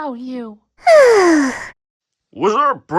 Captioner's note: sad noises